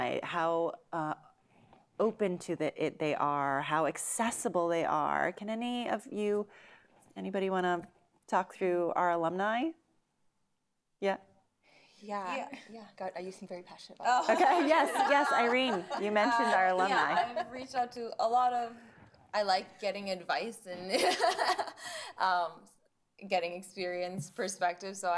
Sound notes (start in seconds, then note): 14.2 laughter; 21.1 laughs